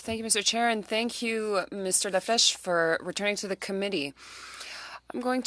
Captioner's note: speaking french